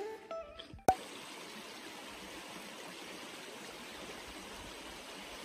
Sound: river flowing

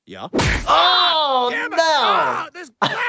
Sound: glasses shatter

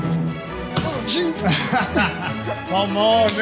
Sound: whimsical music; laughs

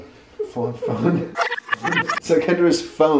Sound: audio rewind

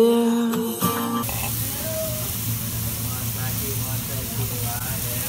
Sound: hibachi noises

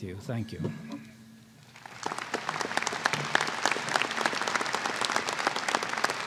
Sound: applause

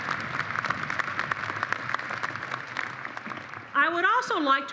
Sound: applause

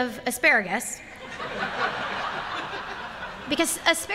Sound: laughter

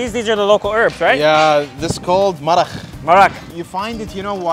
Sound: speaks foreign language

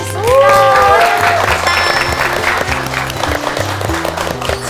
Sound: claps

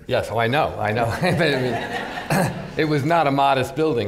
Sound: laughter

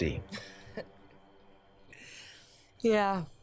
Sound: Katharine laughs

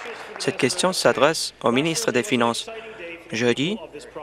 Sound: applause

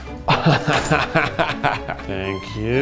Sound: laughs

